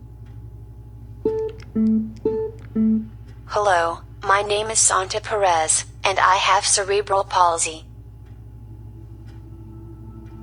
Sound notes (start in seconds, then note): 3.2 automated computer voice